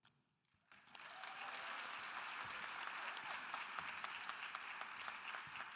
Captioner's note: audience cheering and applauding